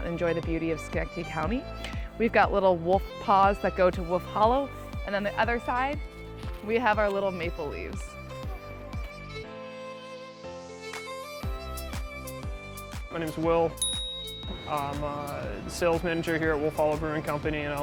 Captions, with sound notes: and enjoy the beauty of Schenectady County. We've got little wolf paws that go to Wolf Hollow. On the other side, we have our little maple leaves. (pleasant violin plays) - My name is Will. (chime) I'm the sales manager here at Wolf Hollow Brewing Company.